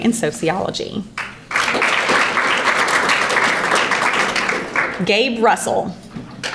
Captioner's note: audience applauding